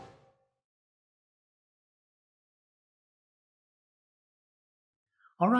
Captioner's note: pause